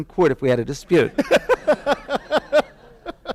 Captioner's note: laughter